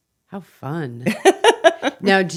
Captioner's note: laughing